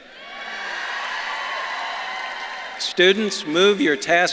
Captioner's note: audience claps and cheers